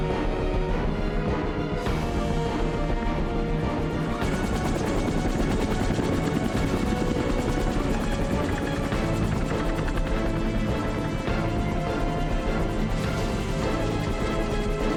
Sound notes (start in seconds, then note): 4.0 helicopter blades whirring